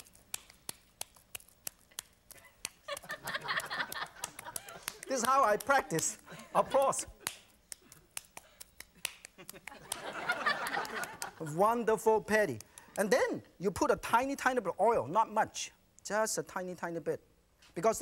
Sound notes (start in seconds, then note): 0.0 light slapping; 7.7 rhythmic slapping; 9.4 audience laughing